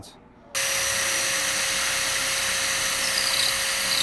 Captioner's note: drilling